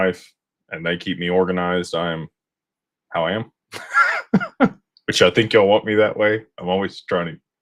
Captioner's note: laughter